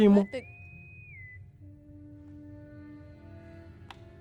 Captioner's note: intercom whistles